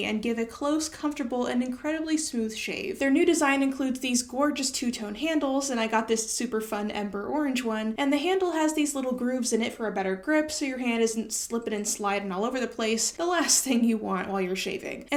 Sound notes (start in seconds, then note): none